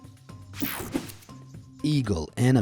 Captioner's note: screen whooshing